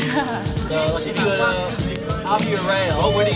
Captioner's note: laughter